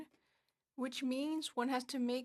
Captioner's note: speaking French